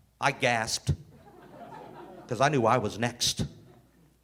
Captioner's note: audience laughing